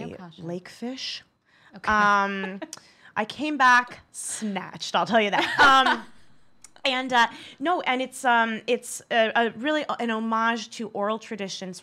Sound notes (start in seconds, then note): 2.6 laughs